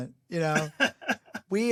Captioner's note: laughs